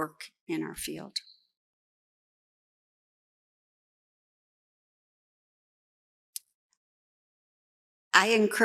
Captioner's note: pause